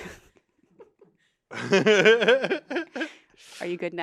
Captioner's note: laughs; Anthony laughs